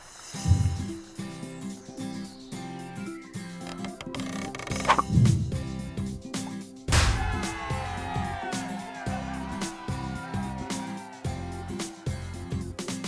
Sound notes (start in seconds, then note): 0.2 instrumental music; 7.0 cheering